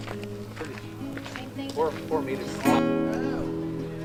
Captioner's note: voices chatter